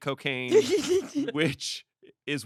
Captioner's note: laughs